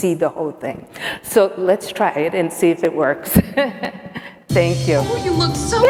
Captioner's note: laughs